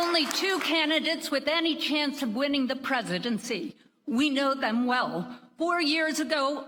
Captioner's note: applause